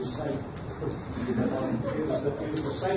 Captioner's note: audience laughs